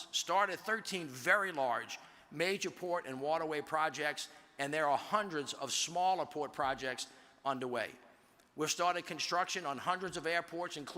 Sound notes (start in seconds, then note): none